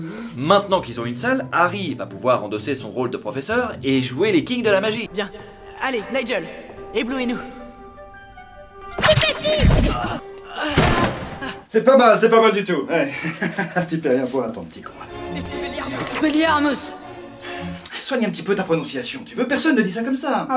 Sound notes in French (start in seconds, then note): 13.0 rires; 13.7 chuchote